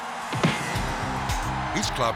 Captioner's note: hit thuds